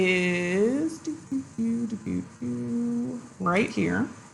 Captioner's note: makes funny sound